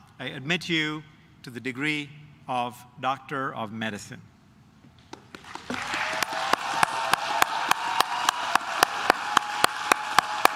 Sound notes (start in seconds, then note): 5.1 claps; 5.6 cheers